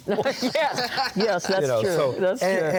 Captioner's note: group laughs